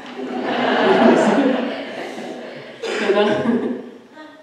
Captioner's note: audience laughing